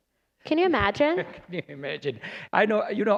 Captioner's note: laughter